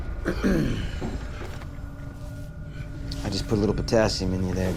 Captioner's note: ominous music; clears throat